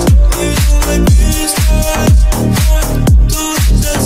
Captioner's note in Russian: М-м-м